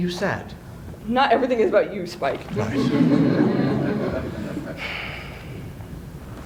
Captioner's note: laughter